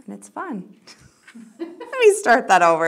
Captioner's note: giggling